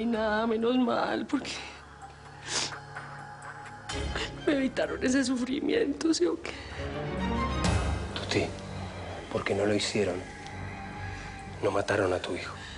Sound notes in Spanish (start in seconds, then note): 3.4 Sollozos